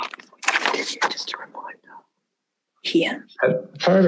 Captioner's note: excerpt plays